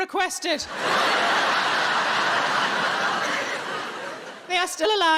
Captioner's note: audience laughing